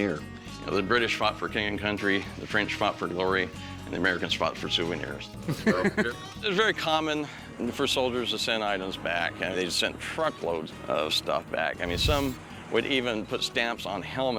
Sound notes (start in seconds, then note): 5.5 laughs